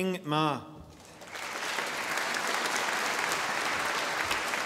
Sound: audience applauding

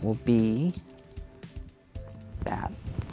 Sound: game pieces rattling

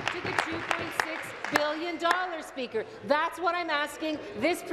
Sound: applause

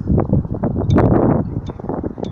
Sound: wind blowing

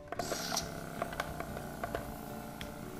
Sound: starts up airbrush

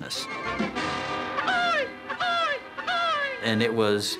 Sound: crowing

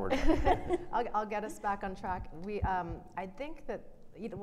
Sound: laughing

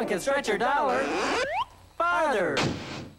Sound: cartoony rubber/slide whistle sound effects; slam

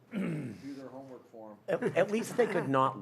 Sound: laughter

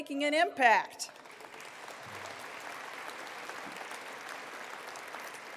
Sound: attendees applauding

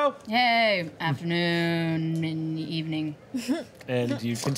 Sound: chuckles

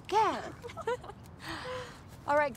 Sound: queens laugh

